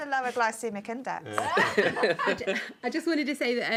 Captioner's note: laughs